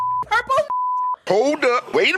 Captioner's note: beep